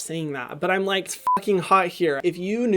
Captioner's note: beep